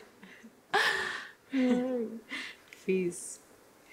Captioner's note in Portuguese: risos